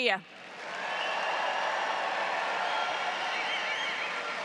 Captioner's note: audience cheers